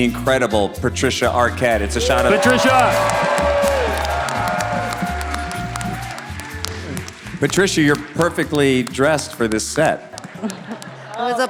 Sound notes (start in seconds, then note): 5.1 audience cheering